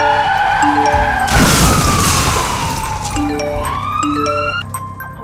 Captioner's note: car wheels screech; notifications ring